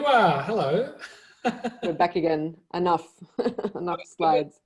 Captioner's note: laughs